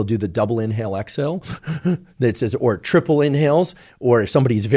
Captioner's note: inhales shakily